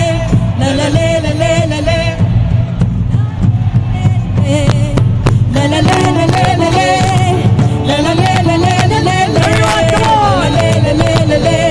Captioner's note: cheering/Applause